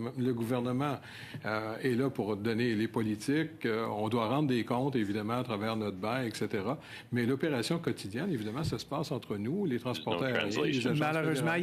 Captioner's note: speaking in French